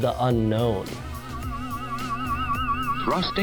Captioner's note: boinging noise